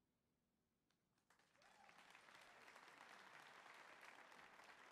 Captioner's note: audience applauding